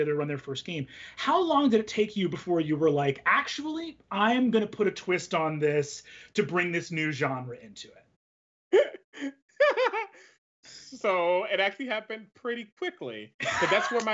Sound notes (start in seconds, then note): 9.6 laughs